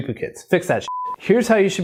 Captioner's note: beep